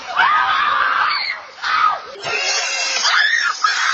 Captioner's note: children screaming